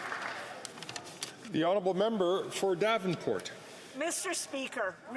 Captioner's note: some Applause